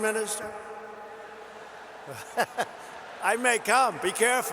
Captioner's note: laughter